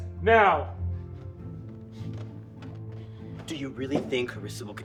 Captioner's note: footsteps tapping